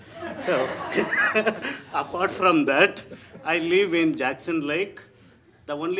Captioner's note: laughs